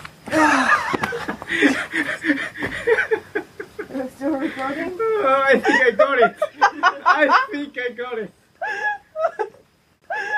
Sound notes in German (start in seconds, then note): 0.3 lacht; 4.2 lachen